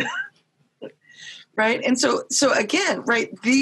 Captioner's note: laughing